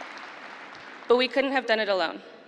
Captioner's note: applause